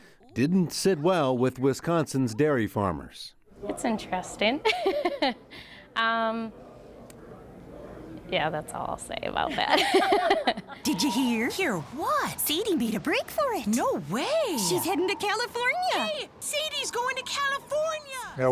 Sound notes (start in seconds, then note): 4.6 laughs; 9.6 both laugh